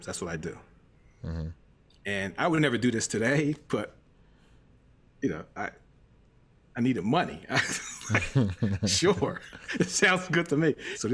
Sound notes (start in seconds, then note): 7.6 laughs